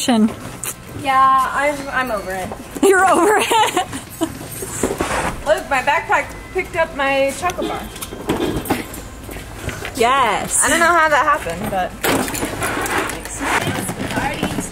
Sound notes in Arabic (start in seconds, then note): 3.2 ضحكات خافتة